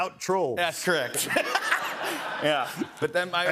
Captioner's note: laughter